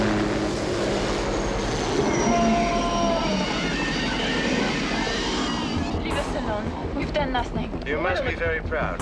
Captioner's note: screaming